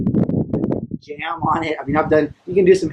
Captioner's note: wind cutting volume